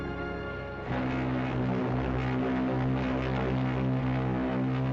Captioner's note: ship Horn Blowing